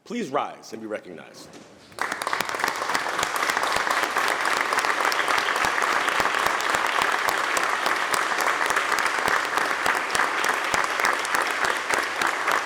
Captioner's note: applause